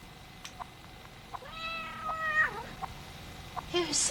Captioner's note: cat meows